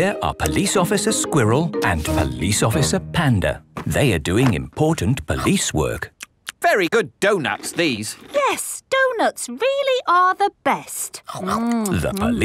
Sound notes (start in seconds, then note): 7.5 munching